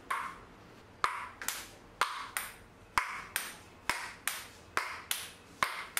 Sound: ball clacking off wall

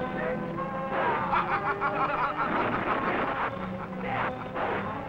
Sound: Starman laughing

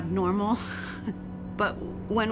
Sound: laughing

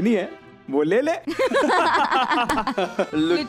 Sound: laughing

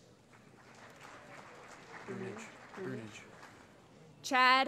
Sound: applause

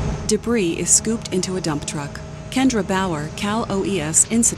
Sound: machinery whirring

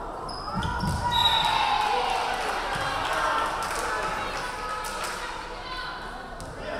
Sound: crowd cheering; referee whistling

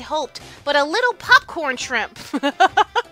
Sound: laughs

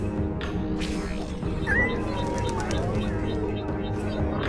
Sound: meowing

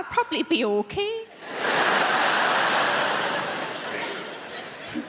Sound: crowd laughing

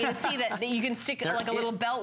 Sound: laughter

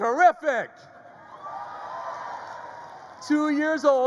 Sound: crowd cheers

